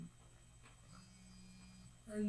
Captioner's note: cell phone vibrating